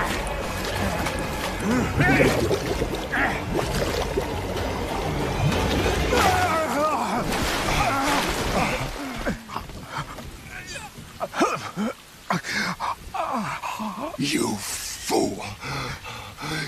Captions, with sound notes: Blaargh! (both heavy breathing) You fool.